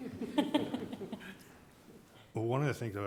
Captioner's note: directors laughing